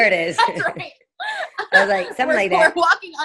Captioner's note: laughing